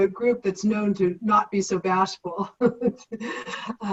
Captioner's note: laughs